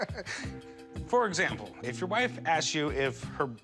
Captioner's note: laughter